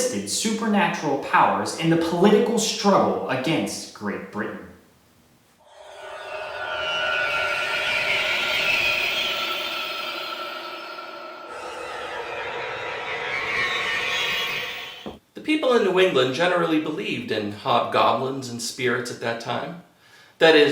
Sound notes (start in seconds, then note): 7.1 creepy sound effect